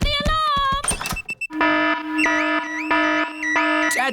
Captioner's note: alarm blaring